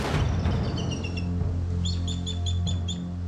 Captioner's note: chirping